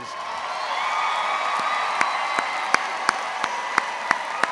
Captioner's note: all applauds